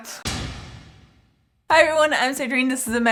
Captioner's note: bang